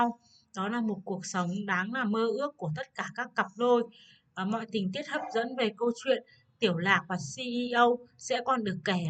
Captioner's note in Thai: ภาษาต่างประเทศ